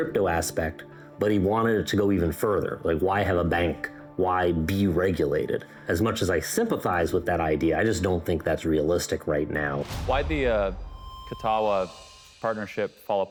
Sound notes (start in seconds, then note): none